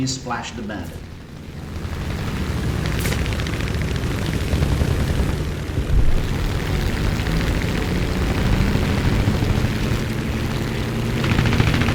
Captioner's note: aircraft Engines ,Gunfire, Flying Sounds